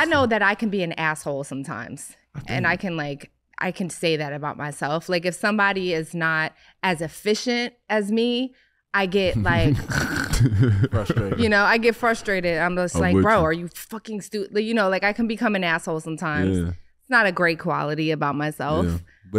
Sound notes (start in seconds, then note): 9.3 grumbling; 9.3 Iman laughing